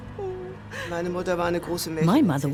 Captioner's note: speaks in foreign language